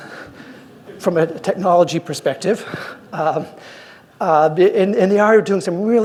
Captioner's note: laughs